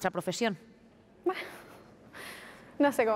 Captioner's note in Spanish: riendo